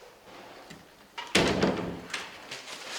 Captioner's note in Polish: odgłos zamykania drzwi